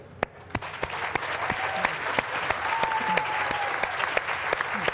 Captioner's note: applause